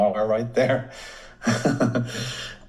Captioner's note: chuckles